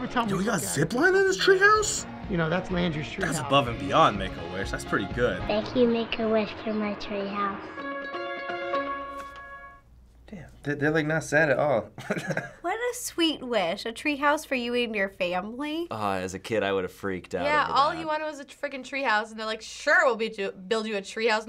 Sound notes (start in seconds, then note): 7.6 touching music; 12.0 laughing